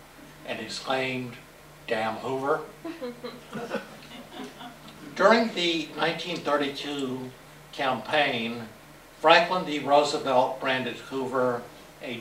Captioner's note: laughter